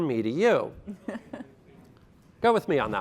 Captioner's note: laughter